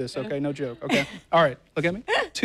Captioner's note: laughter